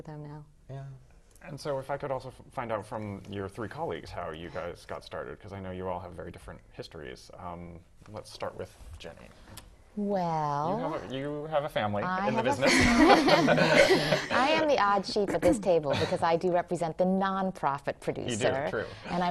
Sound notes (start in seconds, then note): 12.3 laugh